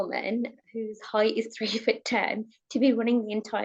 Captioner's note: chuckles